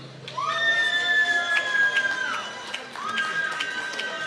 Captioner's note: applause